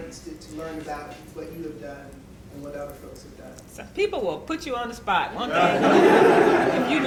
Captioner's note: laughter